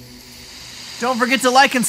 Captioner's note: rain sounds